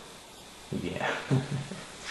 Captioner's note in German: laughing